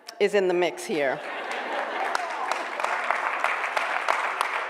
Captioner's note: applause